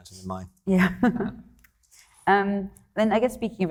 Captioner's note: chuckles